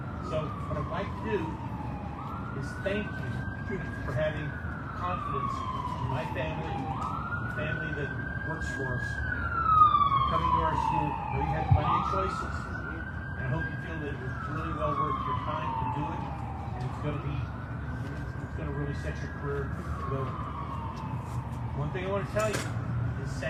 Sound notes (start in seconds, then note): 8.6 siren becomes louder